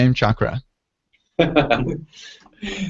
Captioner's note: laughter